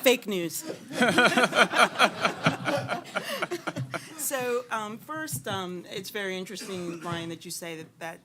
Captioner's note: laughter